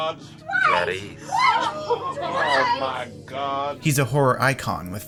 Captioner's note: shouting